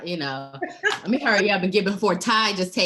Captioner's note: laughing